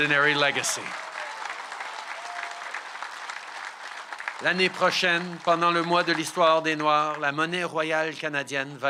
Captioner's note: cheers & applause